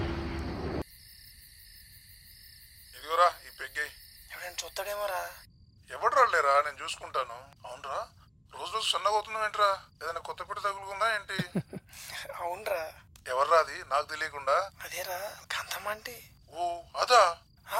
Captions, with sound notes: 'Have this peg!' 'No, somebody might see!' 'No one will come bro, I will handle it...' 'By the way, you are getting thinner by the day!' 'Are you having any affair?' (Laughs) 'Yes!' 'Who is she?' 'It's Kanthamma aunty!' 'Oh, her?'